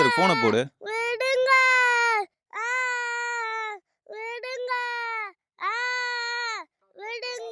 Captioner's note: child screaming